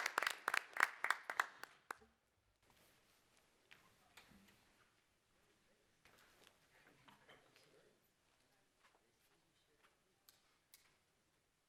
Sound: applause

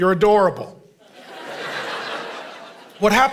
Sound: congregation laughing

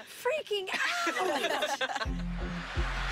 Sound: laughter

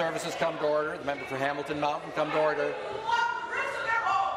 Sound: yelling off mic

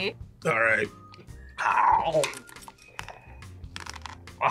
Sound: loud crunching

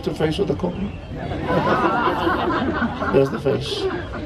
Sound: audience laughs

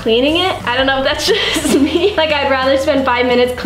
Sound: laughs

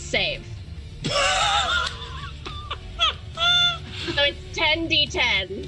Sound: laughs

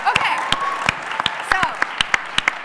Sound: applause

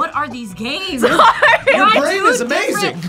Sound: laughs

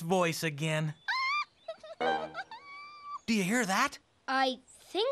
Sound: laughing

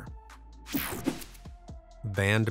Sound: screen whooshing

